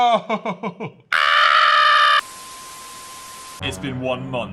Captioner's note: screen buzzes and beeps